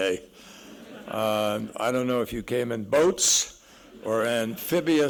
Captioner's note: laughter